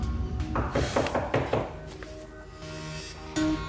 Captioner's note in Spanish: toques en la puerta